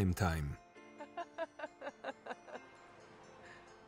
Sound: laughs

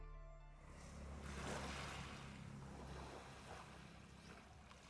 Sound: water splashing

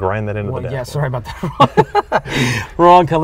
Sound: laughing

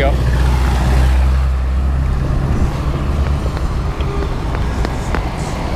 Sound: traffic driving

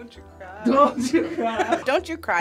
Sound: laughs

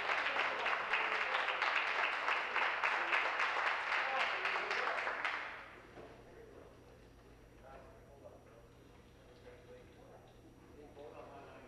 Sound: applause

